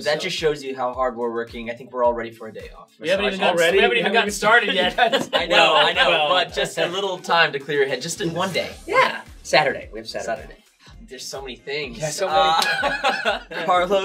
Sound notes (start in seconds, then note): 4.6 all laugh; 12.4 laughs